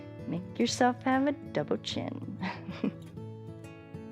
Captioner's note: chuckles